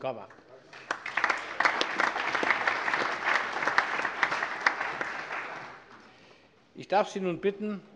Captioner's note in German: Allgemeiner Beifall - Bürgermeister : Danke schön!